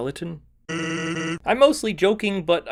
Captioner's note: Sans laughs